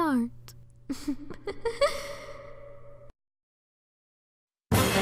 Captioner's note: evil Chuckle